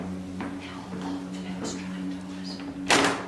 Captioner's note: whispering; sound of door opening